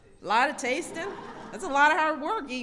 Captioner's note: laughter